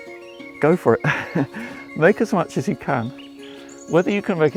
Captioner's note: laughs